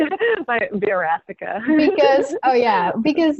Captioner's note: laughing